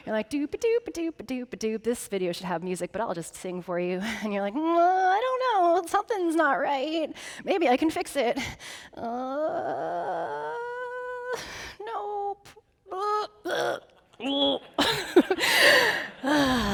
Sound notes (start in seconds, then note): 9.1 groaning; 12.9 groaning; 14.6 audience laughing